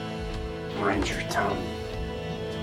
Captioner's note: voiceover